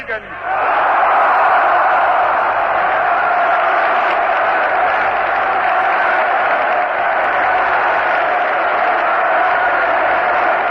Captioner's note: applause